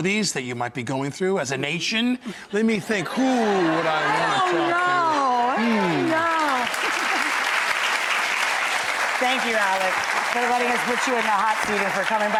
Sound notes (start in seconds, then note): 4.5 audience laughs; 5.1 audience applauds